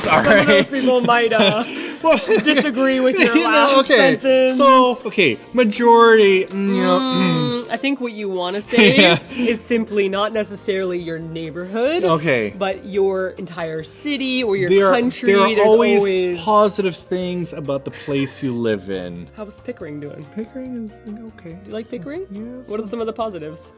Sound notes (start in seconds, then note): 21.1 soft voice